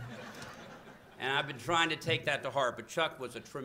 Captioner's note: laughter